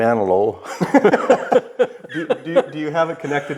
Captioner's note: laughing